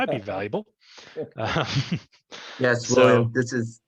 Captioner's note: laughs